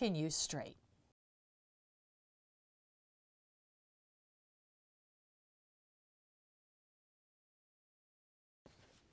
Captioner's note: no Sound Present